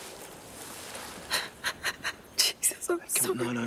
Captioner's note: Jodie sobbing